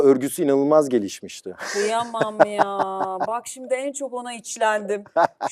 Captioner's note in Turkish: kahkaha